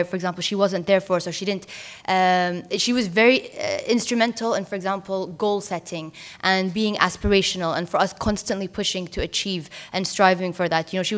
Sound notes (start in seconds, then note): none